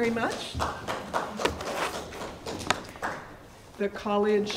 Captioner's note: audience applauding